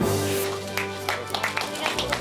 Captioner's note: staff members clapping